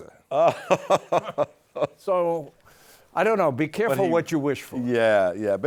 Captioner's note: laughing